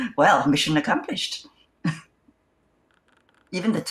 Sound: laughs

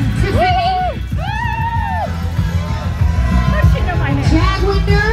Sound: whooo!

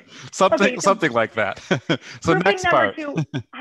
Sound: laughter

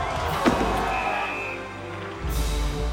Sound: whistling

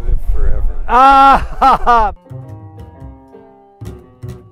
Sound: exclaims loudly

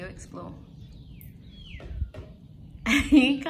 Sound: bird's beak taps on food container; laughs

